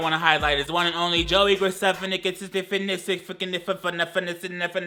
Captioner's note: stutters